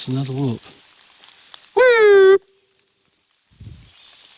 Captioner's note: whooping